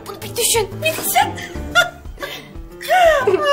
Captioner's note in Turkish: gülme sesi̇